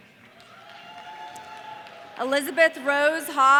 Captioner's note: audience cheering